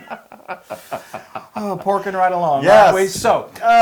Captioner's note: laugh